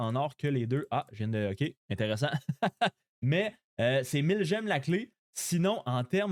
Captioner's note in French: rires